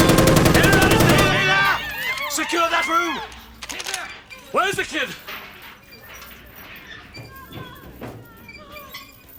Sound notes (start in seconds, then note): 4.0 hinge squeaking